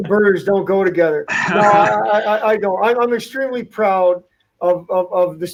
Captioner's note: laughter